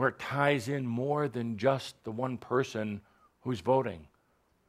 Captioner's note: none